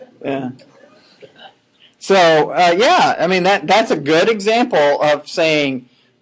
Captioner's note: laughing